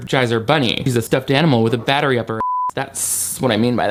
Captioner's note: beep